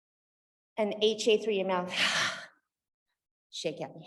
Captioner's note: exhales